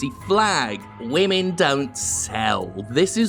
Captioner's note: mocking